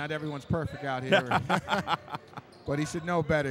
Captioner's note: laughing